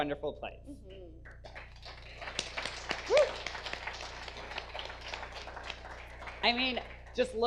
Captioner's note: audience applause; whooping